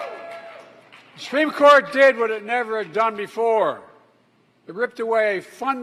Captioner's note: applause